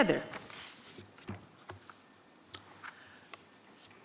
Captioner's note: paper crackling